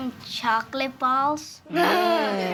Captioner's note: children laugh